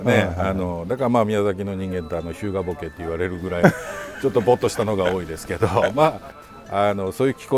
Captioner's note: laughs